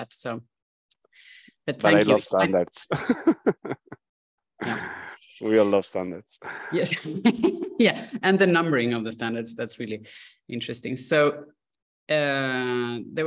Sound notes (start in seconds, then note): 2.8 laughter